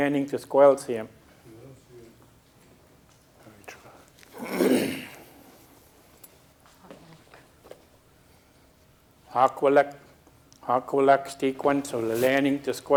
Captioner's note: speaking a local Indigenous language